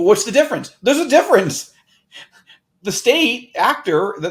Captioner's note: chuckles